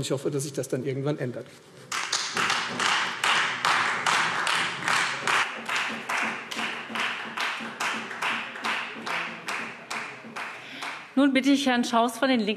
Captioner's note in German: Beifall Freie Demokraten